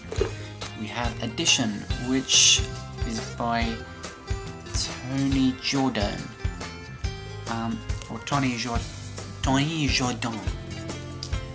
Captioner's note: bad French accent